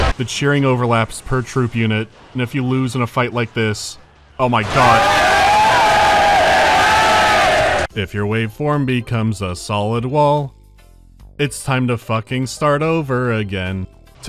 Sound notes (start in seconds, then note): 4.5 unbearable earrape